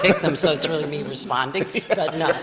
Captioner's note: laughs